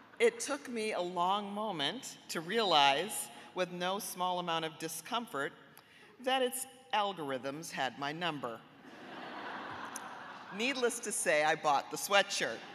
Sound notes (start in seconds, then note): 8.8 audience laughing